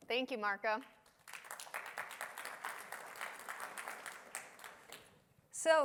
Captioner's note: applause